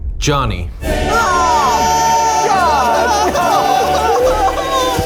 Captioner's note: all cheering